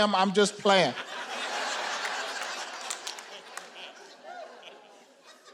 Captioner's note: audience laughing